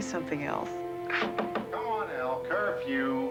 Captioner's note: knocking